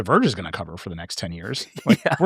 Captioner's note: laughing